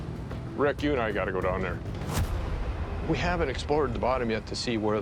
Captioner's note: none